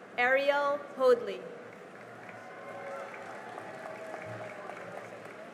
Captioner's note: cheering and applause